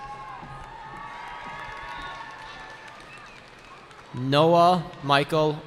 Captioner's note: cheering